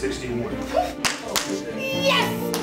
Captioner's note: applauding